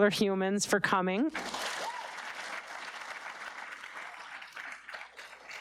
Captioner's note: audience applauding